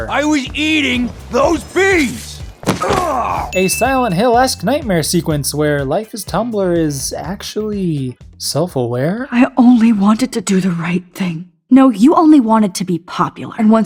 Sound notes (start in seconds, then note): 2.9 Frank groans in pain; 3.5 ding